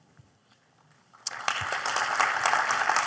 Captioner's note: applause